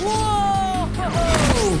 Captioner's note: Amato whooping